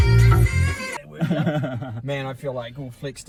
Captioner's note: laughs